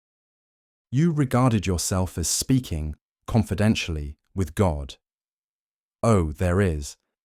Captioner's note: confidentially